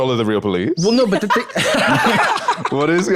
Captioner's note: laughs